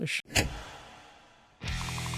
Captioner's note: echoey click